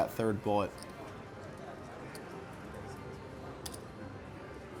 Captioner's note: soft clacking